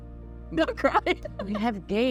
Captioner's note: laughs